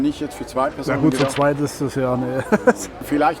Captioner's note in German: lacht